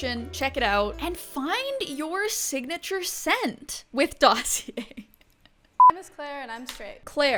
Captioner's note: laughs